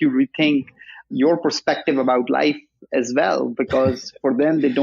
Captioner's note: chuckles